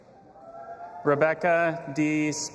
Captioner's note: audience applauding and cheering